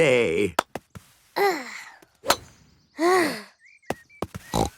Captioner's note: sighs; snort